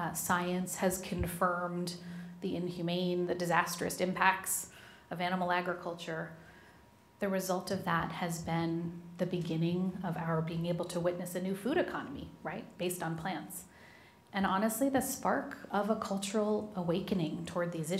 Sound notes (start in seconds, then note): none